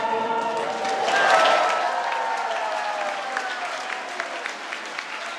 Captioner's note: audience applauds